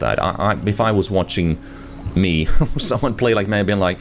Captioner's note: laughs